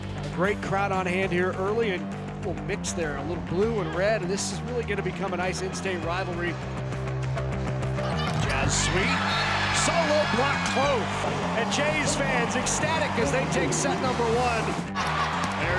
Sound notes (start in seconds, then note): 7.2 exciting music; 10.8 crowd cheering wildly